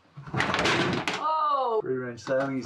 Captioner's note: assorted items clattering loudly